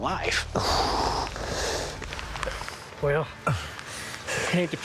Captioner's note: panting